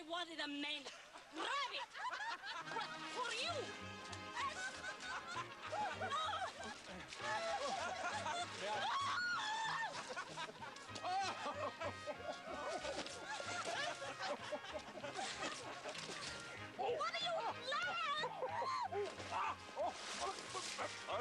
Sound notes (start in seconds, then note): 6.7 laughter; 8.8 screams; 12.6 laughter continues